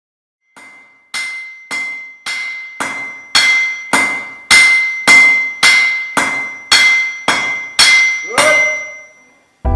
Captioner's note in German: lautes metallisches Klingen